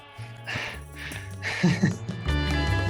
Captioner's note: laughs